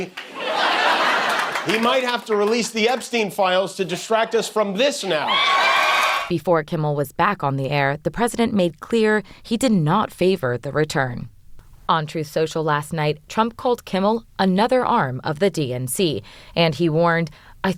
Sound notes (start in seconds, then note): 0.2 laughter; 5.0 cheering